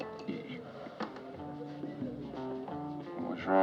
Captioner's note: stammering